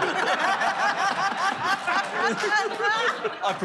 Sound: laughter

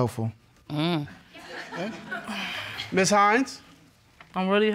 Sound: audience laughing

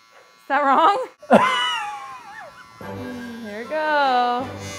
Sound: laughing

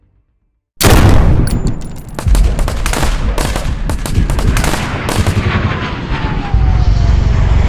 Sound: loud banging and machine gun fire

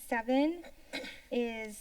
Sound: clears throat

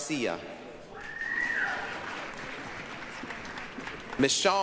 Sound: applause, cheering

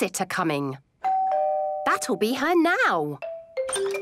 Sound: doorbell rings

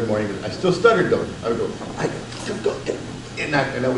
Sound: stutters

